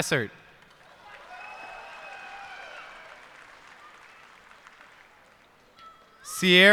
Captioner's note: cheers and applause